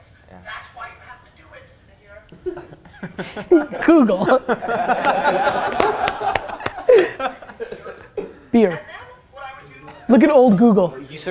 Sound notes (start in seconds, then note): 2.3 group laughter